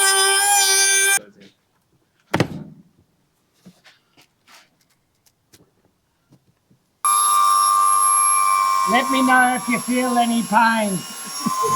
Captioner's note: machine whirring